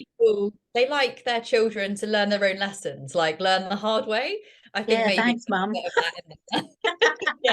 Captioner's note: laughter